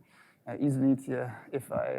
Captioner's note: speaks in foreign language